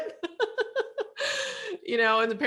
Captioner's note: laughs